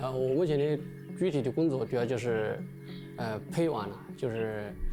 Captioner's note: speaking chinese